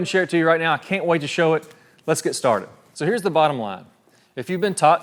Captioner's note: none